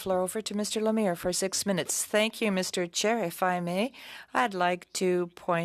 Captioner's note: speaking French